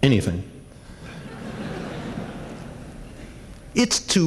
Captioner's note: laughter